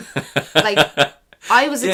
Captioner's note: laughs